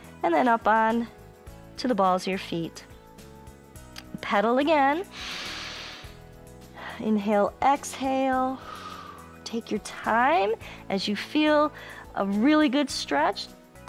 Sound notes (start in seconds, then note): 5.1 inhales; 8.1 exhales